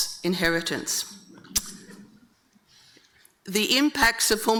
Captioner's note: audience chuckling